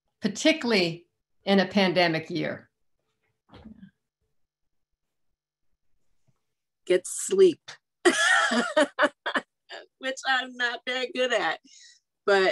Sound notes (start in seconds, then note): 8.1 laughing